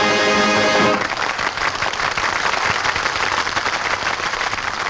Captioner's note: patrons clap